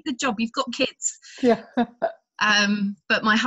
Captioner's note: laughs